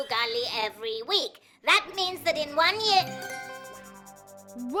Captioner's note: chiming